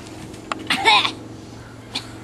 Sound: cough

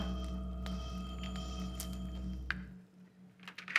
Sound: laser whines

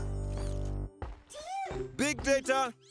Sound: footsteps approaching

